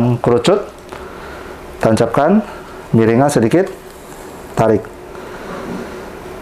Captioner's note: inhale; injection sound